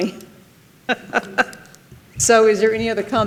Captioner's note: laughs